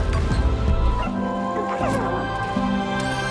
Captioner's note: bird coos